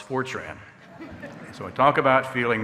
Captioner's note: audience laughing